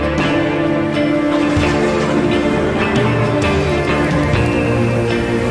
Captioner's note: thunder cracking; rain falling